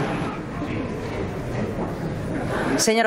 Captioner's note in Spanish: Risas